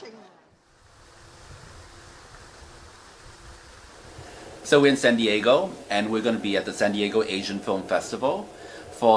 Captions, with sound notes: (water splashing) - So we're in San Diego and we're gonna be at the San Diego Asian Film Festival